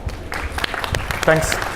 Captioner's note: audience applauding